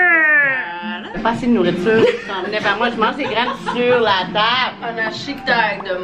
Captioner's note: laughs